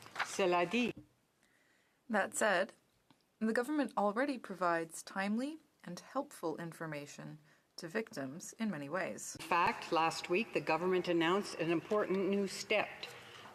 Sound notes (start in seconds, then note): 5.3 speaking French